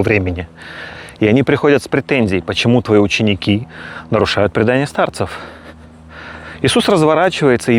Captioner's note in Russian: тяжелое дыхание